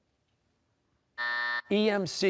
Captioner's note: buzzer